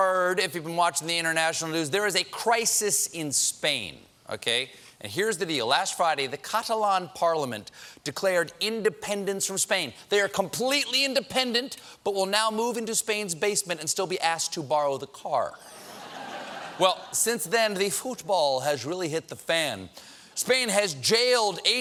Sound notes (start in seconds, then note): 15.6 laughter